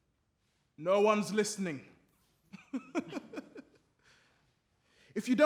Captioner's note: laughs